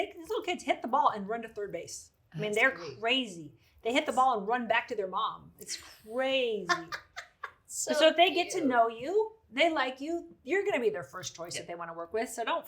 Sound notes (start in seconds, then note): 6.6 laughs